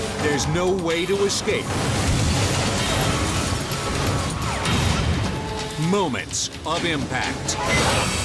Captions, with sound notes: there's no way to escape. (vehicles crashing) (suspenseful music) moments of impact.